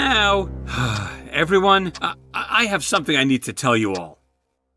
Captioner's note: sigh